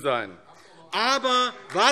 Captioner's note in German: Beifall AfD